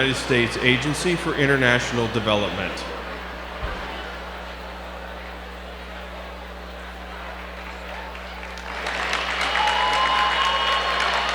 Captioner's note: applause